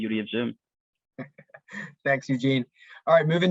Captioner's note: chuckles